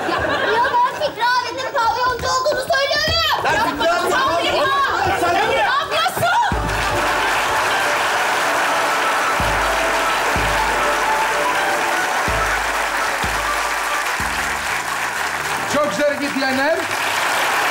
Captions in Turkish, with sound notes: Ya ben Fikri abinin pavyoncu olduğunu söylüyor muyum? (bağrışmalar) Çok güzel hareket diyenler.